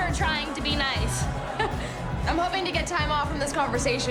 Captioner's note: scoffs